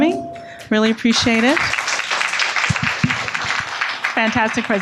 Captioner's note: audience applauding